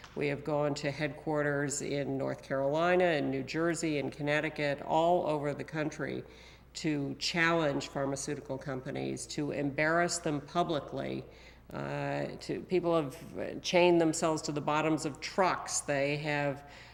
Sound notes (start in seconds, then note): none